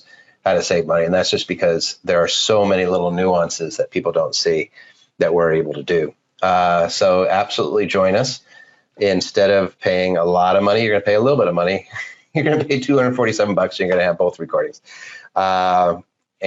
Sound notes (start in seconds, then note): 11.8 laughs